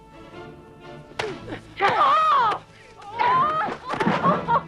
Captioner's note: both grunting